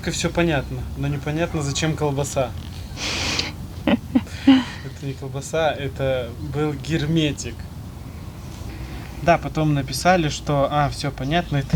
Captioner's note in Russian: смех